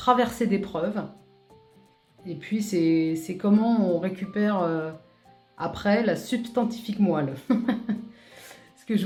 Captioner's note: laugh